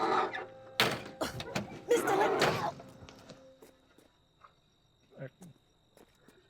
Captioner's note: car door creaking; car door slams